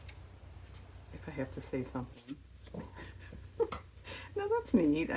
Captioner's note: laughs